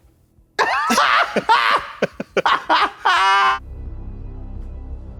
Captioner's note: blonde Women guffaw; somber music